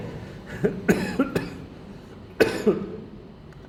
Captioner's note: coughing